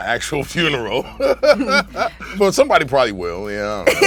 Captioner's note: laughs